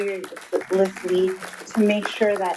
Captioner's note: attendees applauding